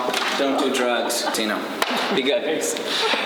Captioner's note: laughing